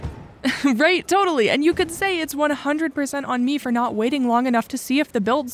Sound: laugh

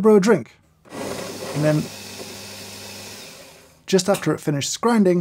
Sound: machine whirs

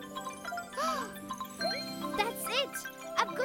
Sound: gasps

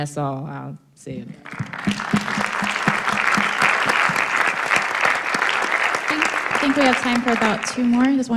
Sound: applause

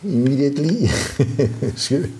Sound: laughing

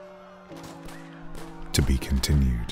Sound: gunshots

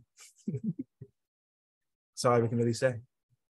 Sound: laughs

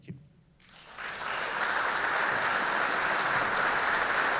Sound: audience clapping

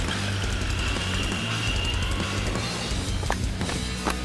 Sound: wheels rolling

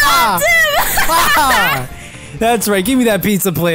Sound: both Laughing

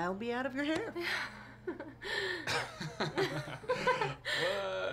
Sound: nervous laughter

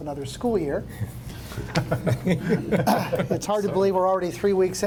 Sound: board members chuckle

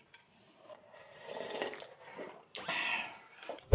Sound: slurp

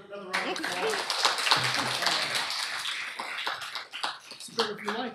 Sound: applause

